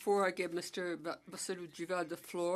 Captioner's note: speaking French